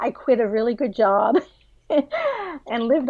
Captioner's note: laughs